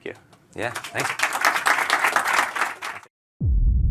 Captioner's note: applause; audio logo